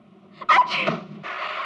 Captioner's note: sneezing